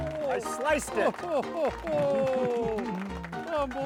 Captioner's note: ragtime music; laughing